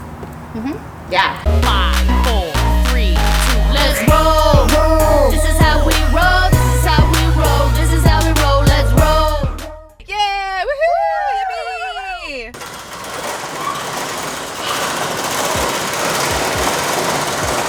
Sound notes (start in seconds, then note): 10.1 cheering; 12.5 roll up door clattering